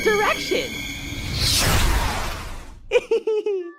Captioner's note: loud laser sound